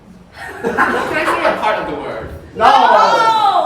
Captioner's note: everyone chuckles